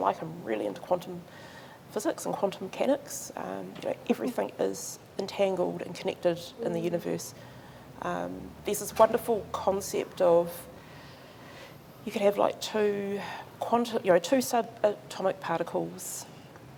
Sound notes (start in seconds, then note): none